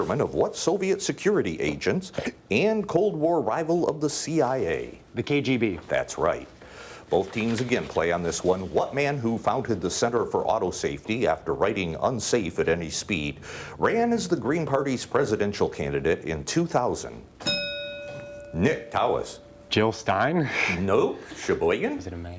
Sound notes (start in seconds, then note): 17.4 bell dinging